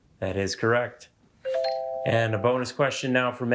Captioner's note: bell dings